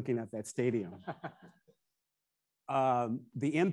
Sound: attendees laughing

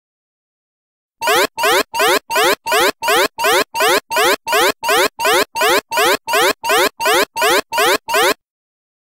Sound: sound of space alarm

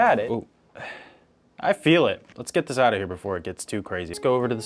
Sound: none

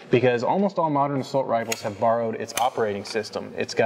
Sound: gun charging click

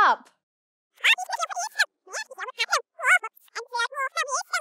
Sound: very fast squeaky voices

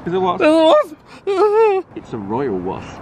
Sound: whimpers

